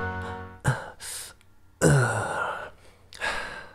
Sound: grunts

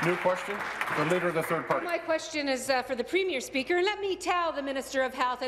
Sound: applause

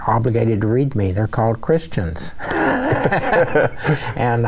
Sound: both laughing

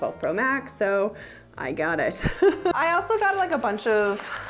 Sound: laughing

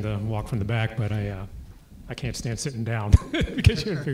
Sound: laugh

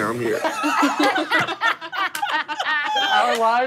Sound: laughing

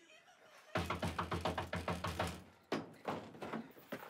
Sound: door banging

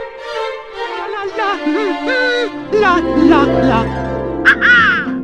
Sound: Mario hums the Super Mario Bros. Over-world theme

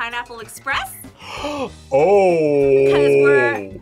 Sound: gasps

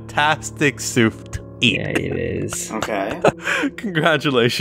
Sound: soft chuckle

